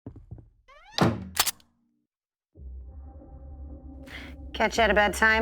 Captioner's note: gun cocking